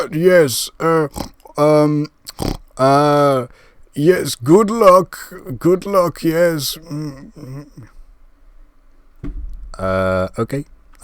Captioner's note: pig Snort